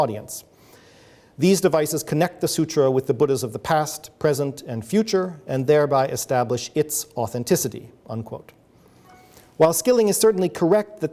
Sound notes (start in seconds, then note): 9.0 a phone notification goes off